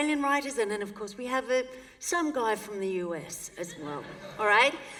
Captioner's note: laughter